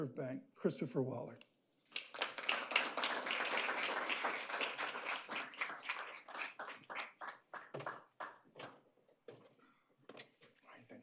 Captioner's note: applause